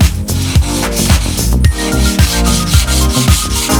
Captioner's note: plane scraping